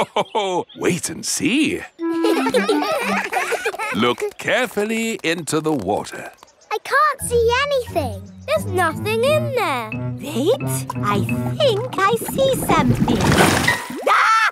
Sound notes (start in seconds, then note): 2.0 children laughing; 2.1 laughs; 14.0 screams